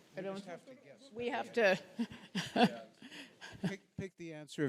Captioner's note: laughs